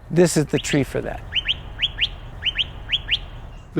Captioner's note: bird calling